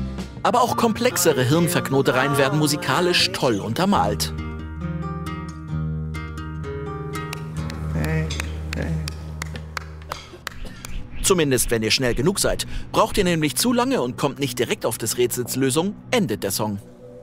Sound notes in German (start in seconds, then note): 5.1 Entspannte Musik; 8.6 Jemand klatscht